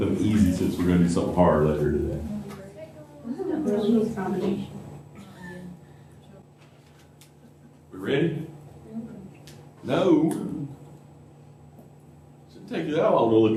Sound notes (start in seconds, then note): 7.4 laughter